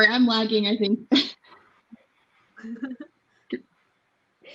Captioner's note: laughing